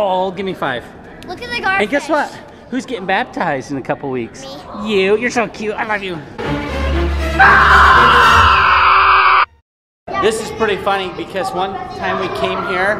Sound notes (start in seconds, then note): 6.5 scary music; 7.3 screaming